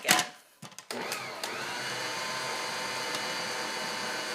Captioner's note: mixer whirrs